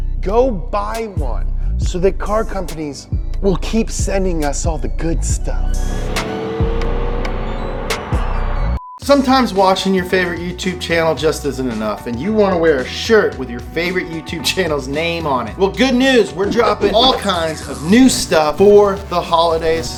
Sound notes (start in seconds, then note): 5.7 car revving; 6.1 upbeat music